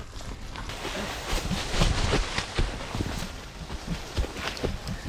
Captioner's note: leaves rustling